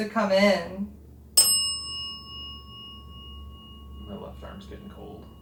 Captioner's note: bell dings